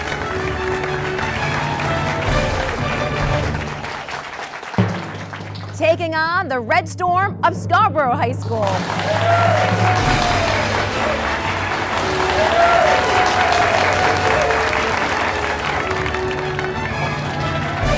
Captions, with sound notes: Taking on the Red Storm of Scarborough High School. (crowd clapping and cheering) (fast, upbeat music)